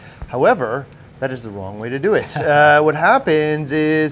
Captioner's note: laughs